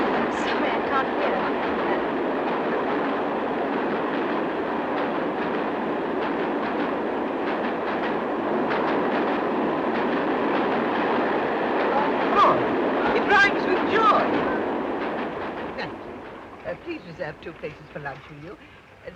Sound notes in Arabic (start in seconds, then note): 0.0 السيدة فروي تحاول التحدث وسط هدير القطار الصاخب; 2.4 هدير القطار بصوت عالي